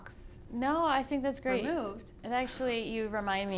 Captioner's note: voice muffled